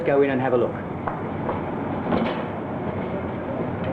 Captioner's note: door opening